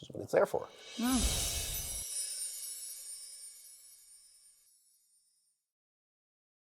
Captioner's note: chimes ringing